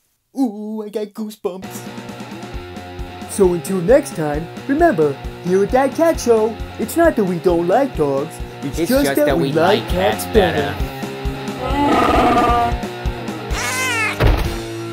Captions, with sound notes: Ooh...I got goose bumps. So until next time remember , here at That Cat Show It's not that we don't like dogs. It's just that we like cats better! (CHEWIE GROWL!) (CAT SCREECH!)